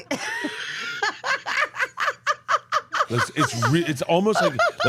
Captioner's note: Steph laughs